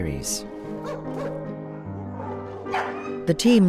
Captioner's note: dogs barking